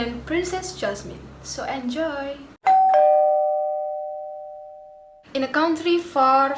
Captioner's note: doorbell